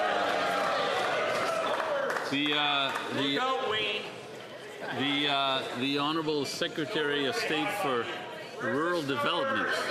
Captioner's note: some Applause